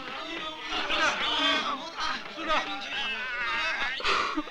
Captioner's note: Malay spoken audio